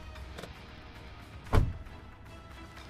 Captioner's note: door Shuts